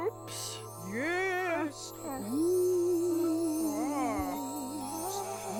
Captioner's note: eerily